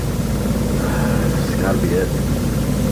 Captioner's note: sigh